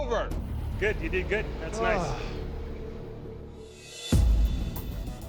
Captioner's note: sighs; rock music